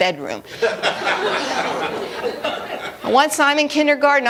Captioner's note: laughter